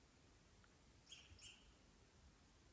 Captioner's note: birds chirping